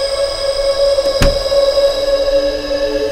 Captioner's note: Door closes